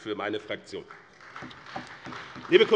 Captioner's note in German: Beifall bei Abgeordneten des BÜNDNISSES 90/DIE GRÜNEN, der CDU und der SPD